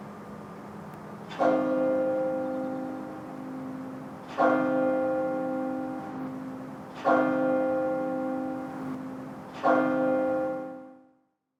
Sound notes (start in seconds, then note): 1.4 bell chiming